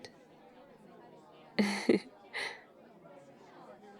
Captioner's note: laughs